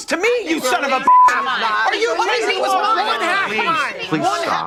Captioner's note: group arguing; beep